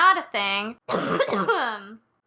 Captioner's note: cough